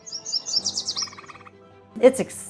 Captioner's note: birds chirping